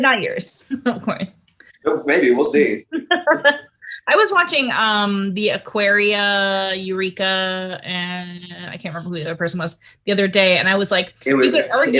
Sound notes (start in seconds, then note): 1.8 laughs